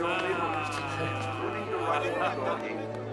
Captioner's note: Doris laughs